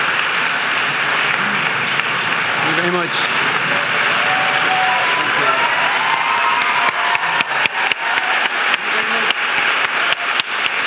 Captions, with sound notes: Thank you very much. (audience applauding and cheering) Thank you very much.